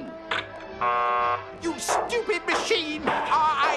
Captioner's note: machine buzzes